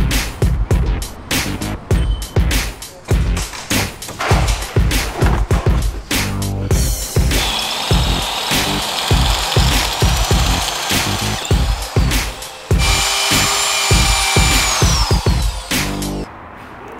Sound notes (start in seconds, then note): 7.8 drill drilling; 12.9 tool grinding